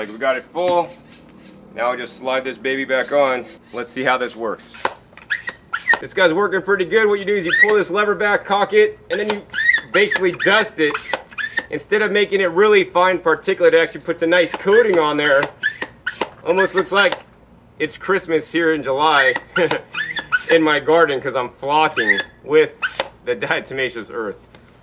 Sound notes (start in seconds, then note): 5.1 squeaking, spraying noises; 9.1 squeaking continues; 19.5 laughs